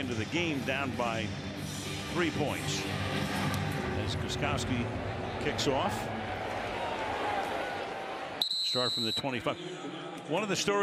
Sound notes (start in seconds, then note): 8.4 whistle